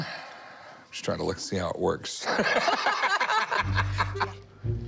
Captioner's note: laughter